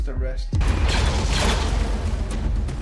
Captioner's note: shooting; intense music